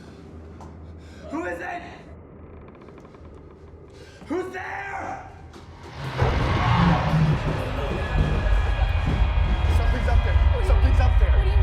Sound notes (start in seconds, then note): 2.4 door opening